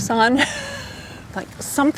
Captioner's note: laughs